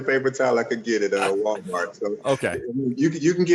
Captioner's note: laughs